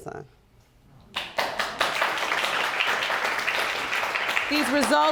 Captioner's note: audience applauding